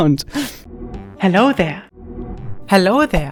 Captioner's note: gentle shwoop